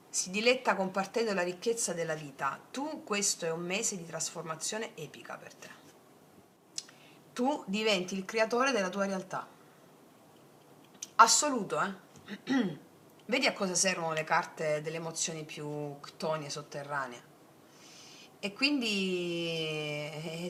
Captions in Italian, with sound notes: Si diletta compartendo la ricchezza della vita. Tu, questo è un mese di trasformazione epica per te. Tu diventi il creatore della tua realtà. assoluto. Eh, [schiarire la voce] vedi a cosa servono le carte delle emozioni più ctone sotterranee e quindi